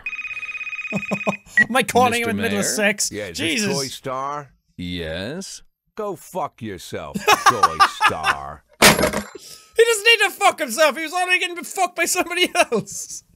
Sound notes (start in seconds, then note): 7.2 laughs